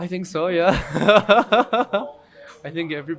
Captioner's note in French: rires